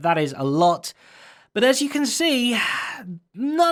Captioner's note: sighs